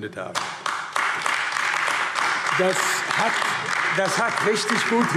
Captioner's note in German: Beifall AfD